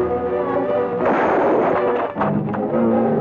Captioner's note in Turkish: Tüfek sesi